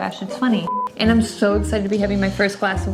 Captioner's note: beep